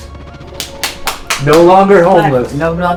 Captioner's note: speaker applauding